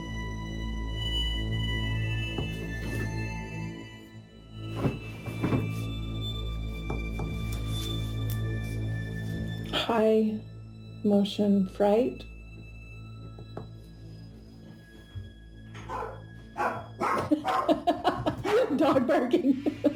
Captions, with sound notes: - High emotion, fright. (dog barking) (woman laughing) Dog barking.